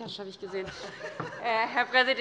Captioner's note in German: Heiterkeit